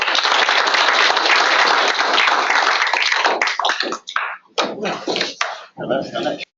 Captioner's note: applause